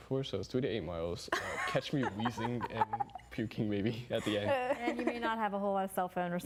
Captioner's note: laughing